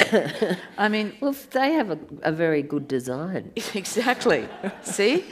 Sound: audience laughs

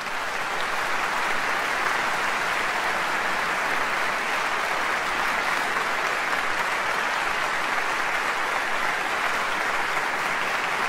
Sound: applause

